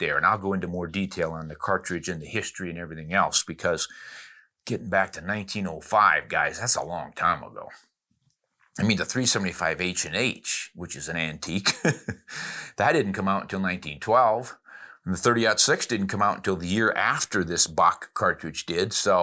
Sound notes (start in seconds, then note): 11.6 laughing